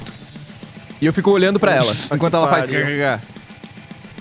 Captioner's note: grunt